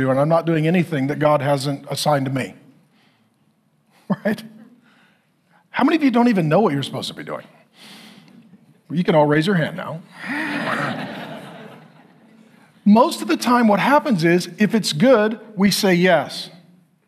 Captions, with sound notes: and I'm not doing anything that God hasn't assigned to me. Right? How many of you don't even know what you're supposed to be doing? Well, you can all raise your hand now. (congregation laughing) Most of the time what happens is, if it's good, we say yes,